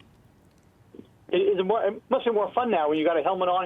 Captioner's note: voiceover